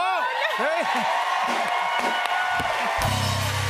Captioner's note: cheers and applause